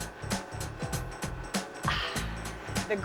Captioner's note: sighs